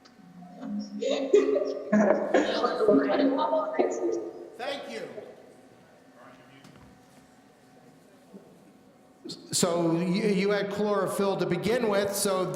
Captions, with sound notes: (students laughing) - Thank you. So, you had chlorophyll to begin with,